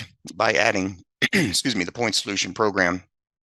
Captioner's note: clears throat